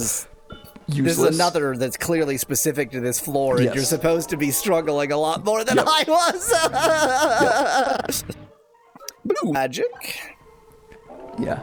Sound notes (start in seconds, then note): 8.4 crying